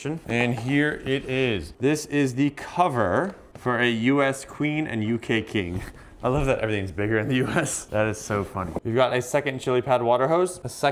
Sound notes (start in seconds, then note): 7.2 laughing